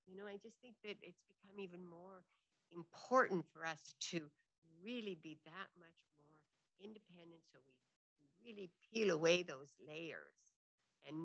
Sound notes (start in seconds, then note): none